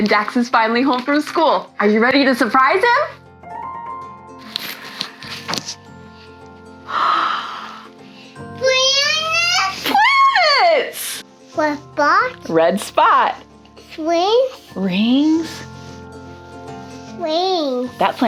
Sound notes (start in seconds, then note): 6.9 gasps